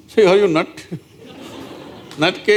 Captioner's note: few Laugh